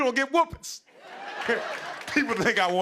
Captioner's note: laughter